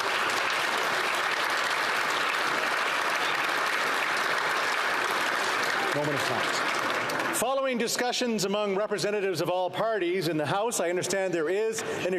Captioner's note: applause